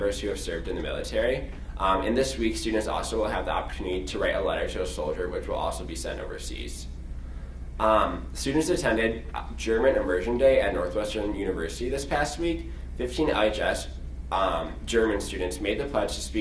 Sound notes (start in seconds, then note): none